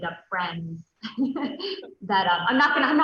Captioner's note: soft giggles